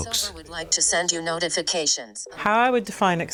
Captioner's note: Synthetic voice